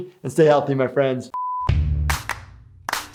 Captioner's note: beep; clapping